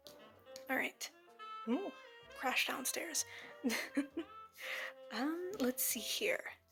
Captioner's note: chuckle